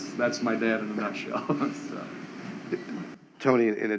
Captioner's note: laughter